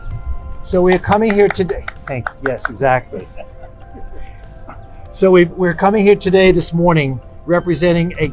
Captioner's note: clapping